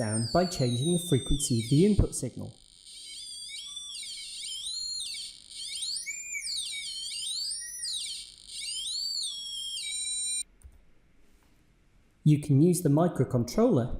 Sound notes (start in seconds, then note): 2.9 sound pitch changes